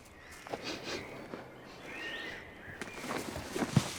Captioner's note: sniffs